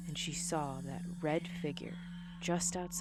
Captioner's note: ghostly voice